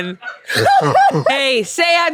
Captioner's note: laughs